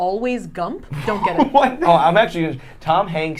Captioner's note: laughing